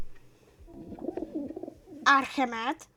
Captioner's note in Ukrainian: звуки пташки